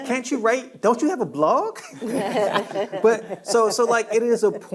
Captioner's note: panelists laughing